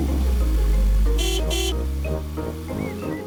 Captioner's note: horn honks